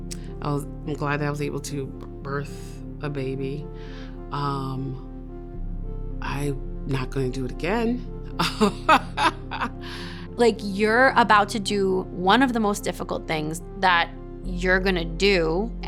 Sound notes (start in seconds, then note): 8.4 laughs